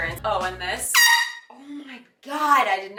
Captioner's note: loud beep